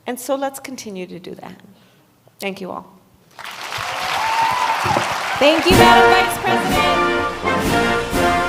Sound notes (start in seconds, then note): 3.3 applause; 8.2 patriotic Music